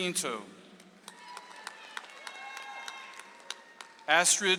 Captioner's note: audience applauds